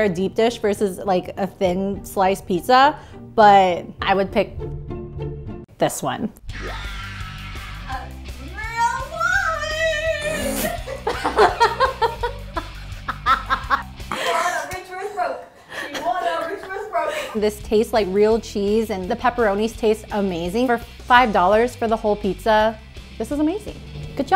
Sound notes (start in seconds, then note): 6.5 rock music; 10.2 cast laughing